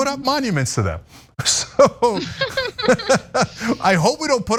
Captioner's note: laugh